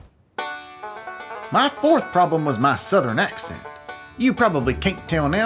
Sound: southern accent

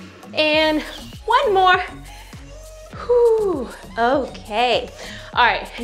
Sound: exhales heavily

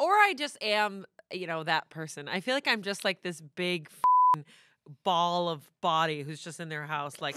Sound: beep

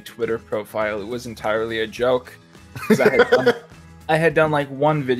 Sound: laughter

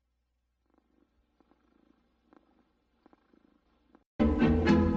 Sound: purring

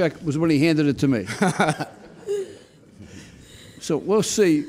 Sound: chuckles

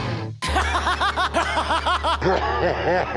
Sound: laughter

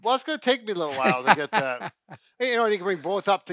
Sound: laughs

